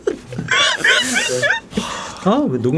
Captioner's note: laughing